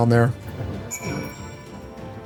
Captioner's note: bell rings